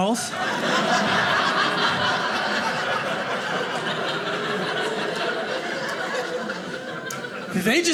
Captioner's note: audience laughing